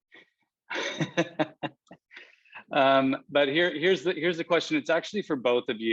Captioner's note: laughs